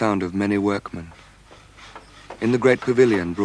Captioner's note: sawing